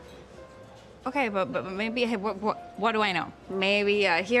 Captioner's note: stammering